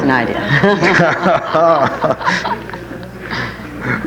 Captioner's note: all laughing